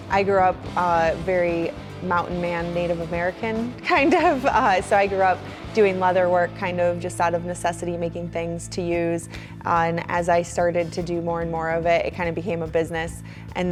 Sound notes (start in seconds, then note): 3.9 laughs